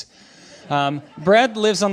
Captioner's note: laughing